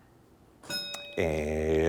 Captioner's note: bell dinging